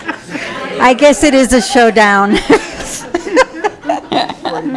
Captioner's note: laughing; laughing